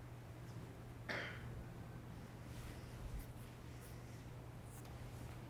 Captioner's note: audience member coughing